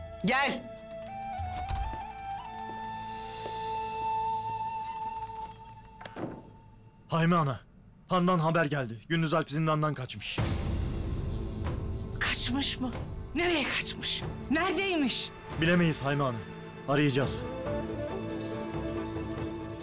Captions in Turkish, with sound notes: Gel. (Kapı açılma sesi) (Kapı kapanma sesi) Hayme ana, handan haber geldi. Gündüz Alp zindandan kaçmış. Kaçmış mı? Nereye kaçmış? Neredeymiş? Bilemeyiz Hayme ana, arayacağız.